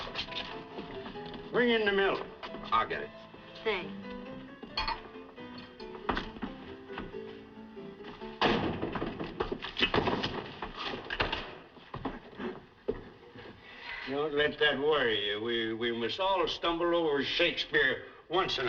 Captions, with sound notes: Bring in the milk. I'll get it. Thanks. [ Door Closes ] [ Thud ] Don't let that worry you. We-We must all stumble over Shakespeare once in our lives.